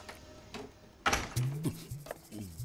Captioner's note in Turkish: kapi açilma sesi̇